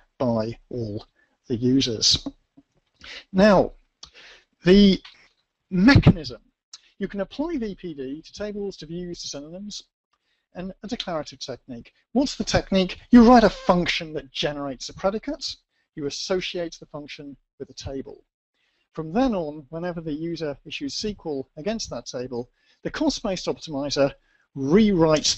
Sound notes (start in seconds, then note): 3.6 pause